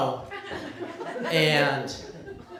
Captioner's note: laughter